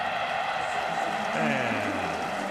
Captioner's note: cheering